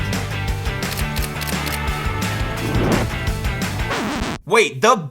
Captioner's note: upbeat music continues; camera shutter clicks